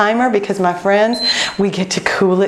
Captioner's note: beeping